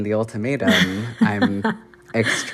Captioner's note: laughter